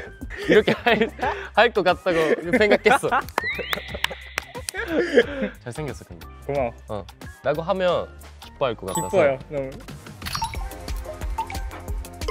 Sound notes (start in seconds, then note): 3.1 clapping in happiness